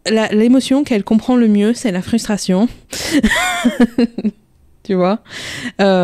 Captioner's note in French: rire